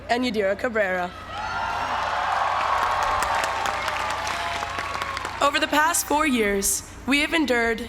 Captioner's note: applause